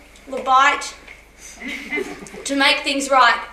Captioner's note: laughter